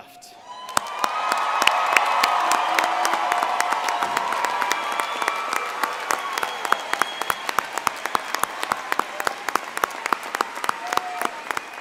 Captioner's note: cheering and Applause